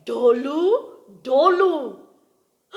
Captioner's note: speaks in gujarati